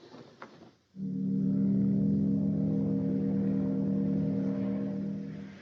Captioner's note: ship Horn Blowing